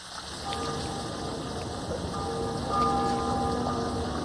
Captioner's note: bell tolling